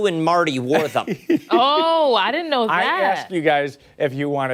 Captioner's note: laughter